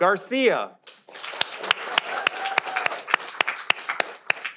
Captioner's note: audience applauding